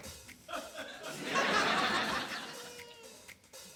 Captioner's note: laughter